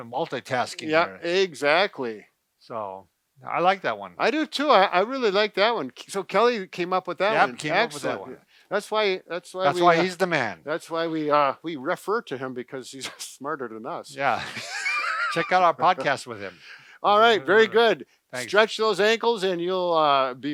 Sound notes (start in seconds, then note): 14.3 both laughing